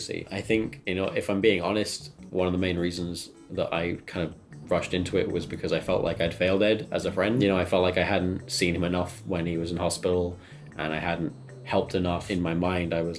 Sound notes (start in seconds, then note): none